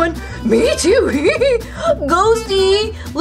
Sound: laughs

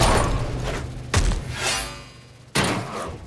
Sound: punching

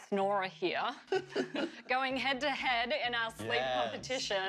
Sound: laughter

